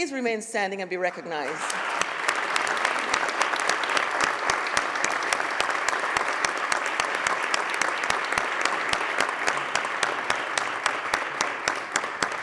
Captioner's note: applause